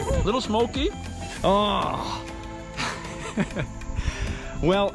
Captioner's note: chuckling